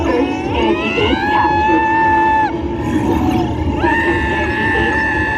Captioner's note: continues screaming